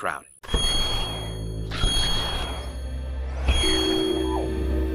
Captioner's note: whooshing